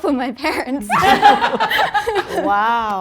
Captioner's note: group laughing